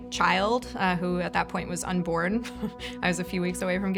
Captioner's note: chuckles